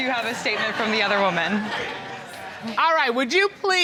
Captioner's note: audience laughing